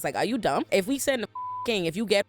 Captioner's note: beep